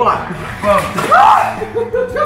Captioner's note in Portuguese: grita